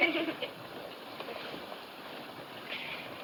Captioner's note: laughs